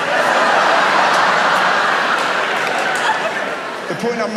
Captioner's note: audience laughs